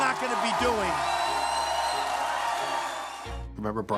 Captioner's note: audience cheers